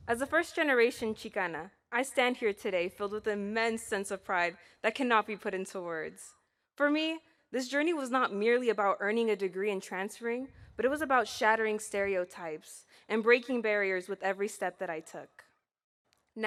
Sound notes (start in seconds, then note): none